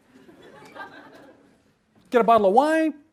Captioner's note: laughter